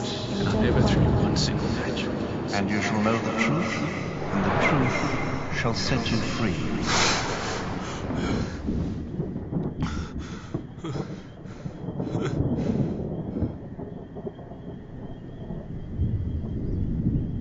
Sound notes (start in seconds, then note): 6.8 gasps; 9.8 thunder rumbles